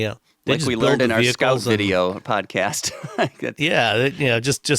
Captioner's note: laughs